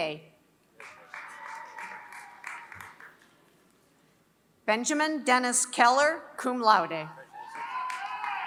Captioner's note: applause; applause